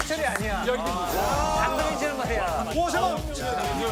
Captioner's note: cheers